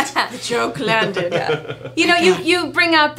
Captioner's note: laughing